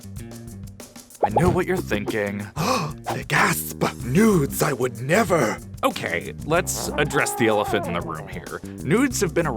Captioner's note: gasp